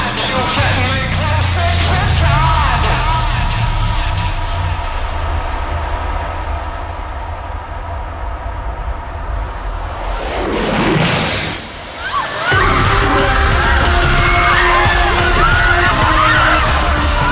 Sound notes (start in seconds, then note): 10.9 sizzling; 11.9 all screaming